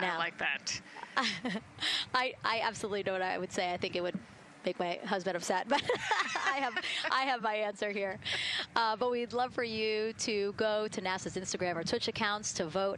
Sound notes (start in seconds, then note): 5.7 laughter